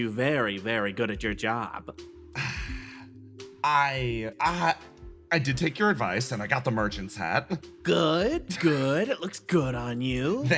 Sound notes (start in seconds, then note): 2.3 Yaiyo Sighs